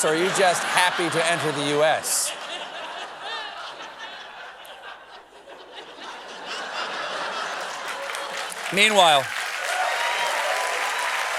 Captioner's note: cheers and applause